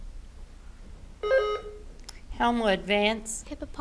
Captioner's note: button buzzing